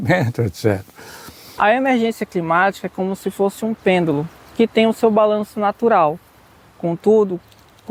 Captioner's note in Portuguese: som de pássaros